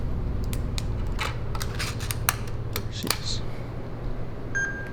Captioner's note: equipment clicking